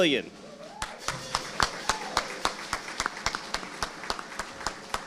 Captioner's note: audience applauding